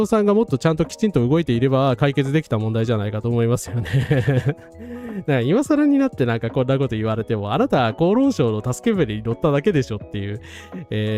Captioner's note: laughs